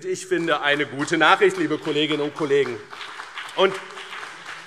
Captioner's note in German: Beifall BÜNDNIS 90/DIE GRÜNEN und CDU